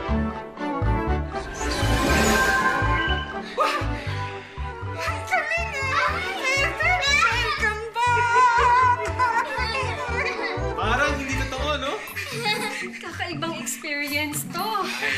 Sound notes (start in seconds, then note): 3.5 nanny gasps; 12.1 Ethel chuckles